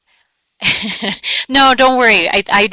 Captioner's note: laughing